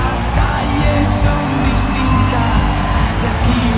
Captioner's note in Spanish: Ovación